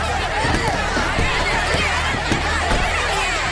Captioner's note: commotion